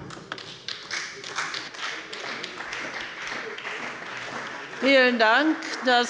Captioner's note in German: Beifall bei der CDU und dem BÜNDNIS 90/DIE GRÜNEN